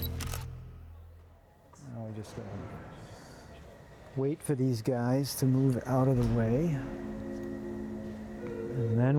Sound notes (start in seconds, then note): 0.0 camera clicks; 5.8 gentle music